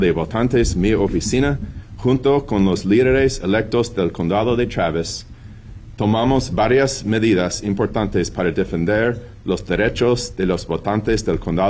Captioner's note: speaking spanish